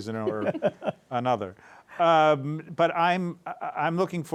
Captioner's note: laughs